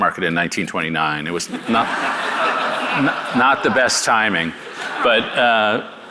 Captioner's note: audience laughing